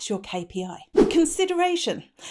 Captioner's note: swooshing